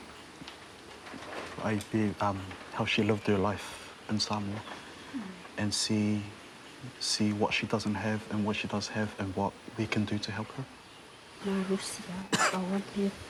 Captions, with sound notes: There's a will, there's a way. (SPEAKS SAMOAN)